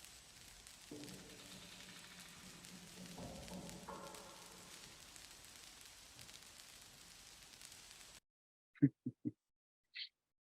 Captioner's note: audio ends; static pops; chuckling